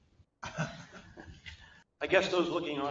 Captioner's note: laughter